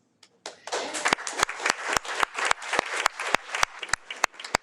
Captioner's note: audience applauding